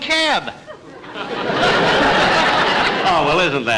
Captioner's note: audience Laughing